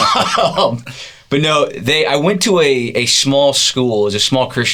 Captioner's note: laughing